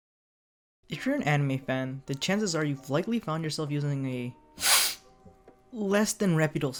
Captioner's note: loud sniff